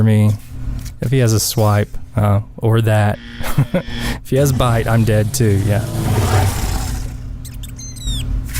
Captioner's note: haha